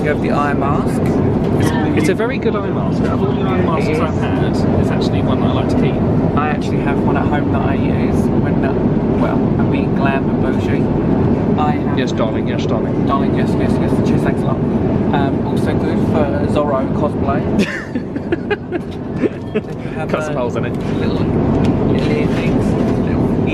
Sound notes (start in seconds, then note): 17.5 laughs